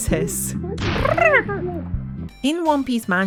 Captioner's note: explosion noise